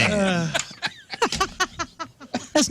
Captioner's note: laughing